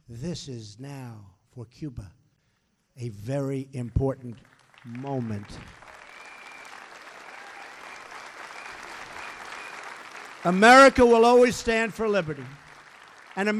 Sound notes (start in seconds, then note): 9.1 applause